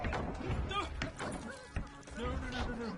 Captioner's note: Gnome struggling and squelching